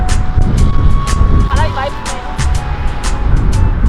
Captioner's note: crying